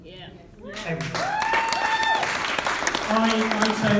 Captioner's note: applause